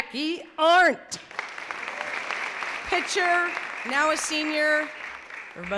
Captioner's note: clapping